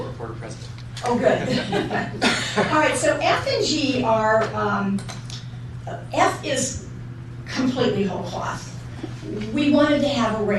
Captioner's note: laughter